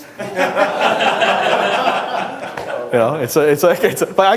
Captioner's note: laughing